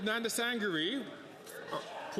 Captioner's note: speaking French